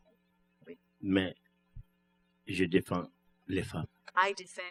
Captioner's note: speaking french